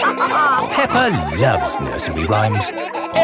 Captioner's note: all laughing